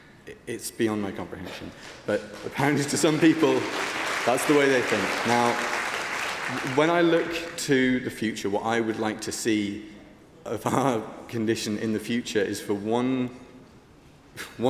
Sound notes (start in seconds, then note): 9.5 applause